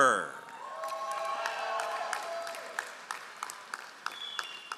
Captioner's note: all applauding